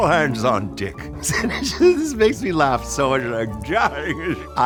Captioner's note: laughs and whimpers